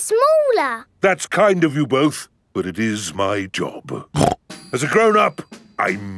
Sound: snorts

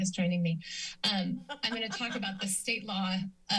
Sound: laughter

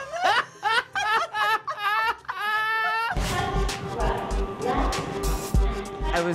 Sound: laughter

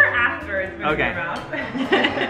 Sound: laughs

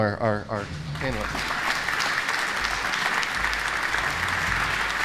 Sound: applause

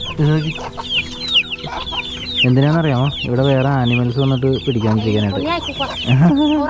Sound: hens' sound; woman speaking in unknown language

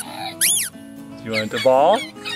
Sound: toy sounds

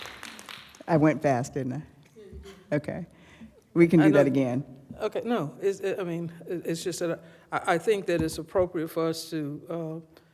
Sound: applause

